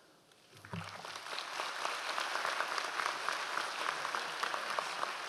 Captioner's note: audience applause